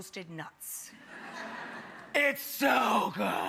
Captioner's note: crowd laughs